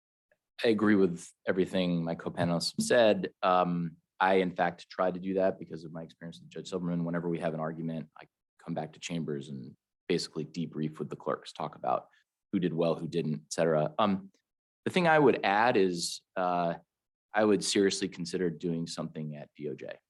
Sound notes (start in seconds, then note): none